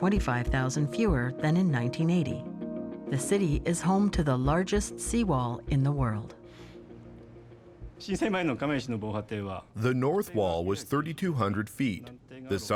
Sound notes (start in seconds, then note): 9.8 speaking Japanese